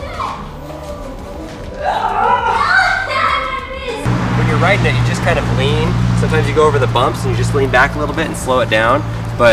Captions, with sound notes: (playful yelling and laughing) When you're ridin' it you just kind of lean. Sometimes you go over the bumps and you just lean back a little bit and slow it down.